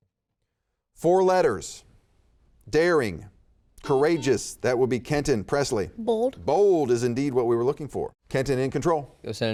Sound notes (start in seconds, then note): 4.2 buzzer beeping